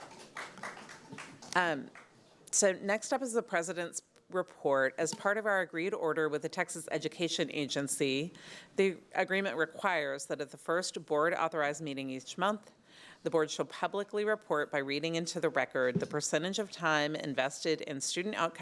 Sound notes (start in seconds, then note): 1.8 applause